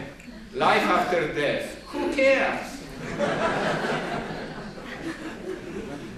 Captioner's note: laughter